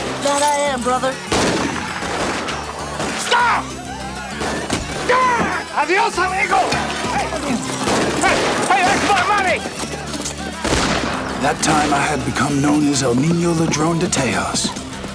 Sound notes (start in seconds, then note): 3.2 preacher yelps; 4.8 preacher screams; 10.4 guns fire rapidly